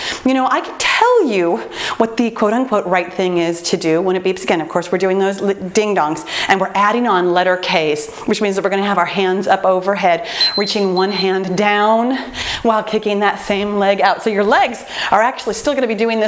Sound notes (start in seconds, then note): 10.3 time beeping